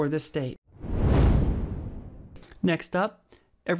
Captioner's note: whooshing